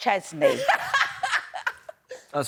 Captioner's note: laughs